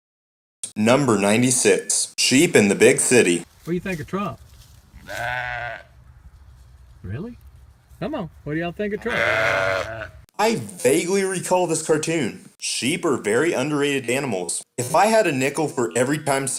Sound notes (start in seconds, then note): 5.0 sheep baaing; 9.0 sheep continue baaing